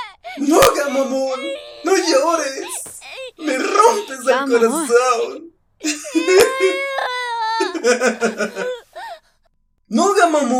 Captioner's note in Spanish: llanto sobreactuado